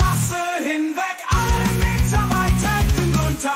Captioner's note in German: mmm mmm mmmmmmmm